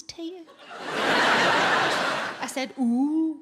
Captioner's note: audience laughs